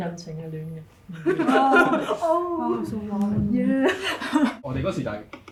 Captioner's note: laughs